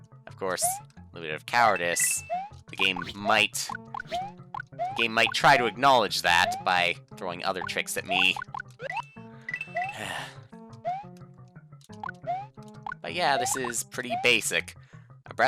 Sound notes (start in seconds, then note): 9.9 sigh